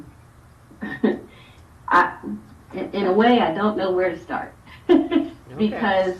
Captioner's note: laughs